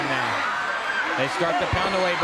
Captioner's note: crowd cheering